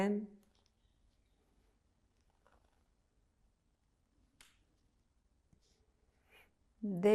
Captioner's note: pauses 6 seconds